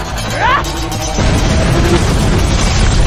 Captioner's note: Xu Xang shouting; explosions booming